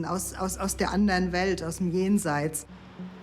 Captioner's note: speaks in German